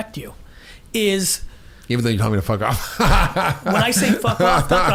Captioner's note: laughs